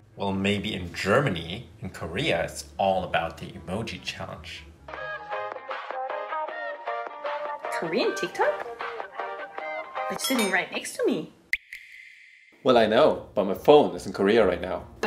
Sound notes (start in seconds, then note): 4.8 cute pop music; 11.5 water dripping